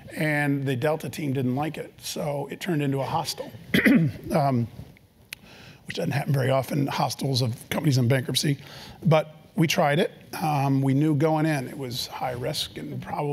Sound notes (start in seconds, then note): 3.3 cough